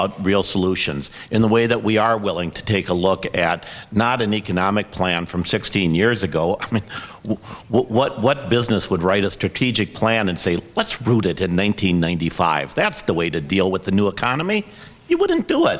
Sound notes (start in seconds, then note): 6.6 laughs